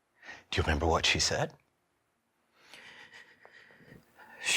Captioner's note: none